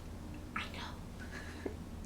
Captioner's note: whispering